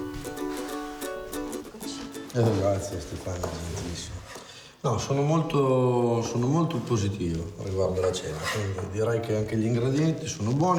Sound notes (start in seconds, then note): 2.6 speaks in foreign language